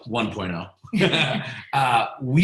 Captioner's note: laughing